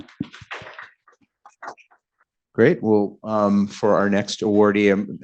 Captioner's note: applause